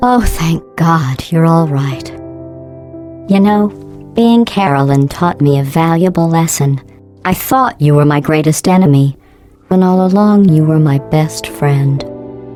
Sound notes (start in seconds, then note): none